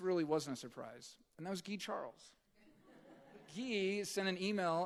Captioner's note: audience chuckling